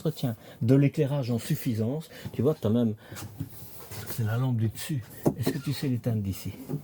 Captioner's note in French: rires